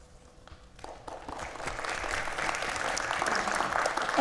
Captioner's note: audience applauds